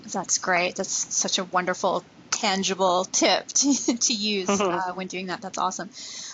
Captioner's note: laughs